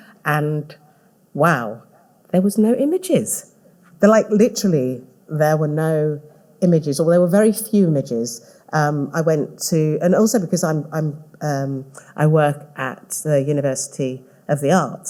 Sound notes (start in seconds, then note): none